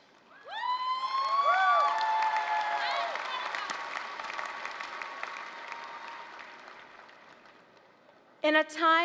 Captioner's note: applause, cheering